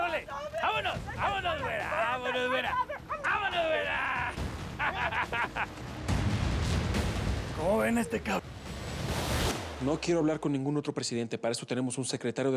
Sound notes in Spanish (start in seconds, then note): 4.6 carcajada